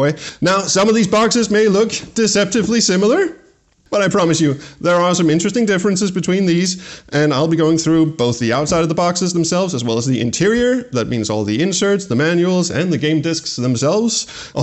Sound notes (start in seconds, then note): none